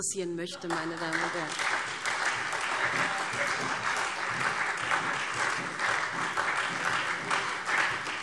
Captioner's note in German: Beifall SPD und Freie Demokraten